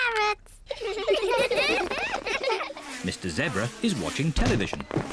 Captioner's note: all giggle